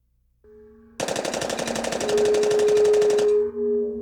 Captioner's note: automatic weapon firing